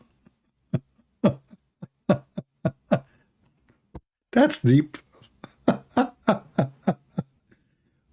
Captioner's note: Ketawa